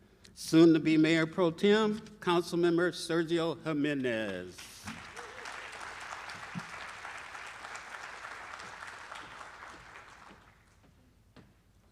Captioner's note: applause